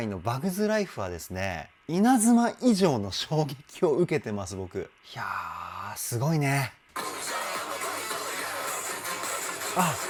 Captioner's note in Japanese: ため息